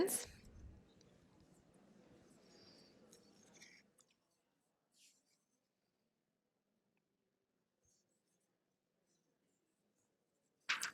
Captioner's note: pause